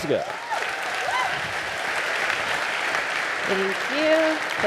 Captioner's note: audience applauding